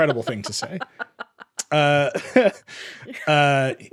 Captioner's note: both laugh